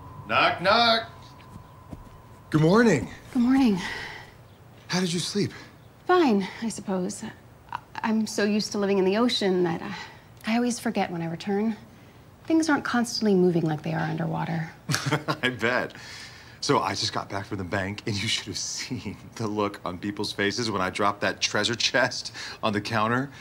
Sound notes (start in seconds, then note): 15.5 laughs